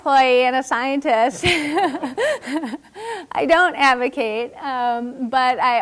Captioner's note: laugh